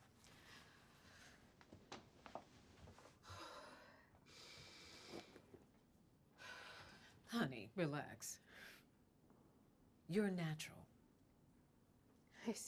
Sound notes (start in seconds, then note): 4.3 sighs; 6.6 exhales deeply